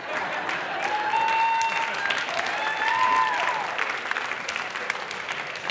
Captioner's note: audience cheering